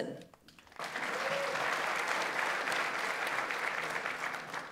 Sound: audience applauds

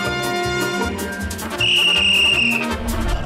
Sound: whistling

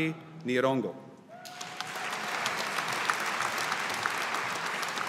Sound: audience applauding

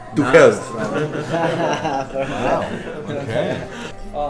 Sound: men chattering

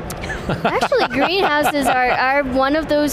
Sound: laughs

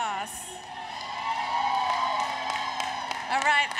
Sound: applause, Cheering

